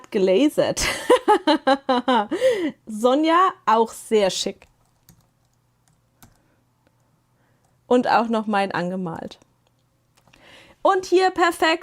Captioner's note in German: gelächter